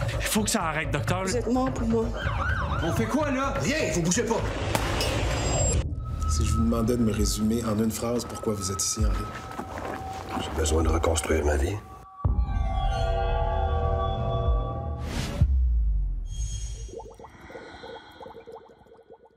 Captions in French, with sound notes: - Faut que ça arrête, docteur. - Vous êtes morts pour moi. - On fait quoi, là? - Rien, vous bougez pas! (coup de feu) - Si je vous demandais de me résumer en une phrase pourquoi vous êtes ici, Henri? - J'ai besoin de reconstruire ma vie.